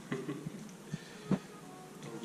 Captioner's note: chuckling